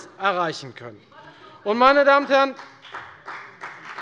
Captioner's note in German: Beifall bei der FDP